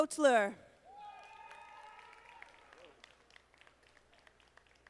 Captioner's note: audience applauding